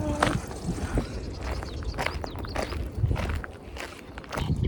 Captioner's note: man quietly hollering; footsteps on gravel